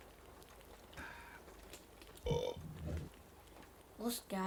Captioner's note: burps